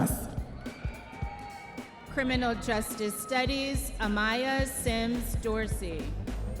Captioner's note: audience members cheering